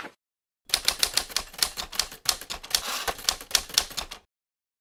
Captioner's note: typewriter clicking